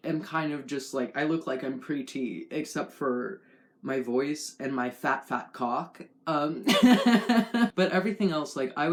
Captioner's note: laugh